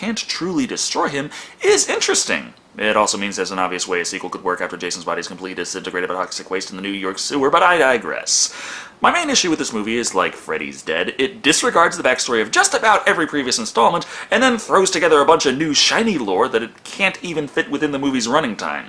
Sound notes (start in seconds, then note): none